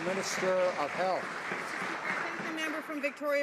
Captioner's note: some Applause